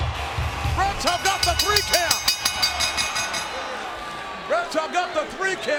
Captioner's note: ring bell dinging